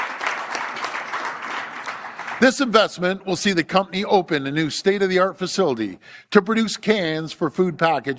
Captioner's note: applause